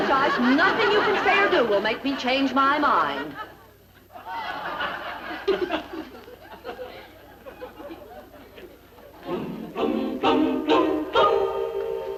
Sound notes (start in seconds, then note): 4.0 audience laughing; 9.2 lively music